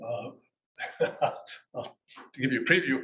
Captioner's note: laughs